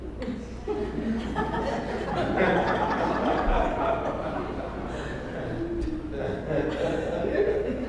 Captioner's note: laugh